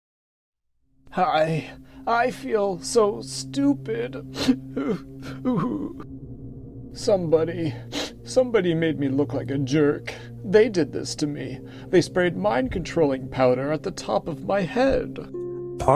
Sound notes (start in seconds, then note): 4.0 sobs; 7.9 sniffs